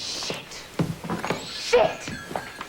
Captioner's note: whispering